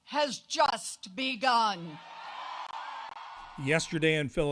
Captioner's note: cheering and applause